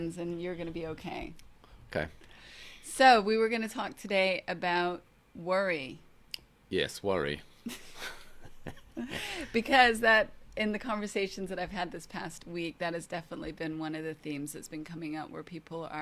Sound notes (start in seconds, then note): 7.6 both laughs